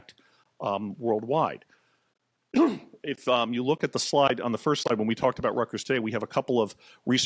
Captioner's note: coughs